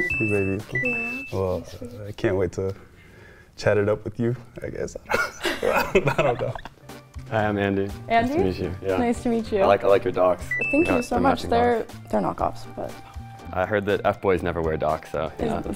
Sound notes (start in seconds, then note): 5.0 laugh